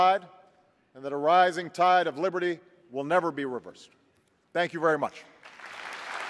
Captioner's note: applause